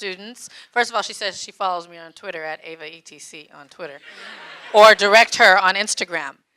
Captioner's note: audience laughing